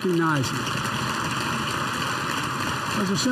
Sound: applause

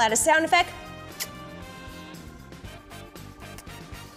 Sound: lips kissing; lips kissing

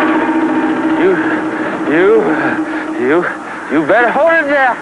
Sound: panting continues; stuttering

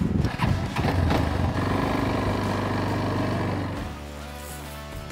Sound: ATV engine rumbles

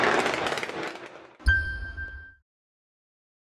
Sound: bell dings

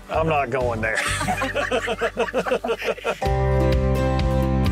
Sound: group laughing; playful upbeat music

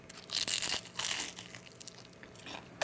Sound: crispy crunching sound

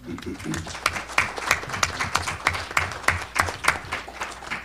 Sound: audience clapping

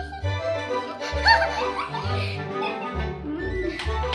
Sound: laughing

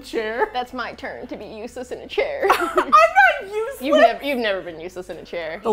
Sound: indignantly

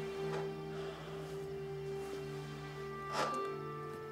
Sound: Josiah sighs

